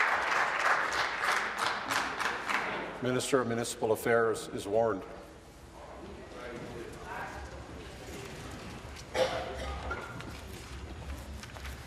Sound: applause

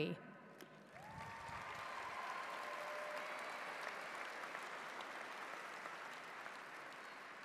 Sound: audience applauds; cheers

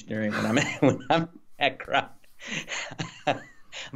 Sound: both laughs

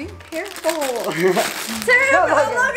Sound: chuckling

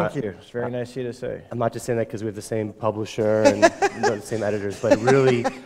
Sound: chuckle

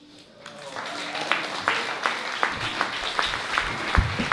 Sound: applause

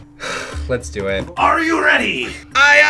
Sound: sighs

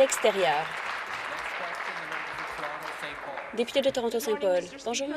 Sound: applause

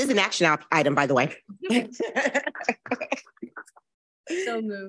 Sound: board members laughing

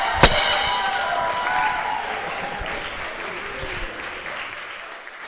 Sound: cymbal clanks; audience applauding

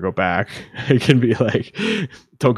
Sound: laughing

